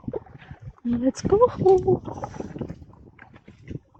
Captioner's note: paddling